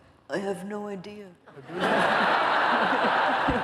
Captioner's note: laughter